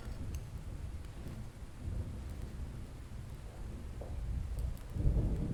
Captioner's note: thunder rolling